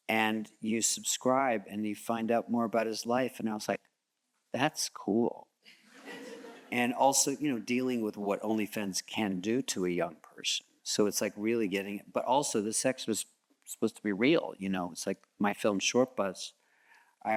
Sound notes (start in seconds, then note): 6.0 audience chuckles